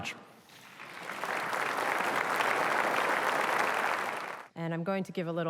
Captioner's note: applause